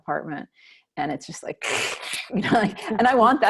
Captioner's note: static whooshing